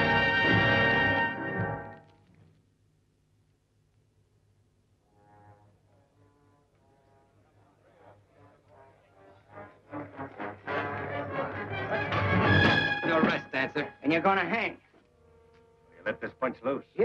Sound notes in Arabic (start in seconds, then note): 5.9 موسيقى مشوقة; 8.2 الرجال يتحدثون بصوت خافت